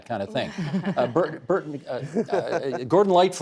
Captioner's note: guests laughing